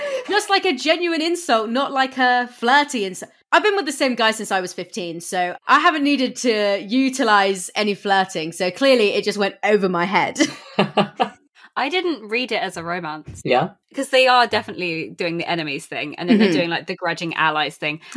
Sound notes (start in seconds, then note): 10.5 laughs